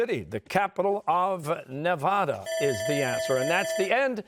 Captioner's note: bell ringing